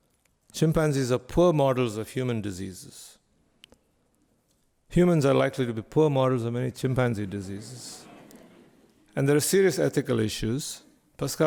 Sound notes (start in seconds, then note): 7.8 faint chatter from audience